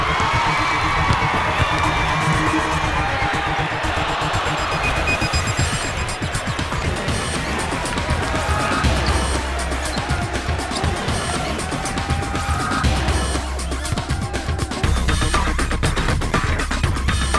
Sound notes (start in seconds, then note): 1.4 crowd cheering; 6.2 crowd applauding